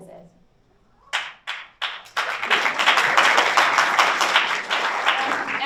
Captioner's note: audience applauds